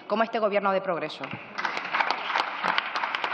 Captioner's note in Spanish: Aplausos